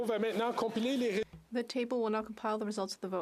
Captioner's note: speaking French